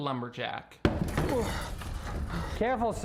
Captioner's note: wood banging; groaning